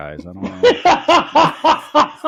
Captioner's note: laughing